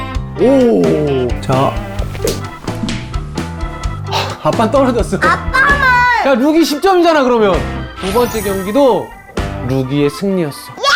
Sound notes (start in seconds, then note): 1.7 sound of it coming off; 1.9 sound of piercing wind